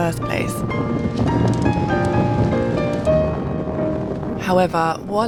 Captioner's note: wind